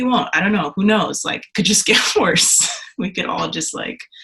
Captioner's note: laughs